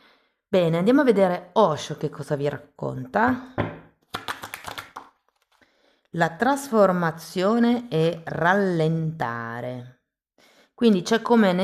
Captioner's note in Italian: Applauso